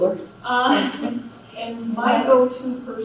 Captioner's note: laughs